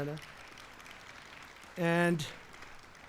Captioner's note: applause